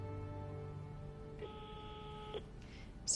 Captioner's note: intercom beeping